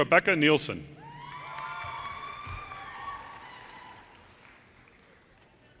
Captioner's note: audience cheers and applause